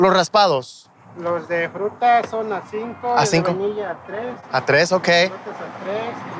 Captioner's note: vendor speaking in Spanish